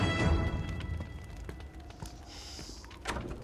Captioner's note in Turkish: Adım sesi; Kapı açılıyor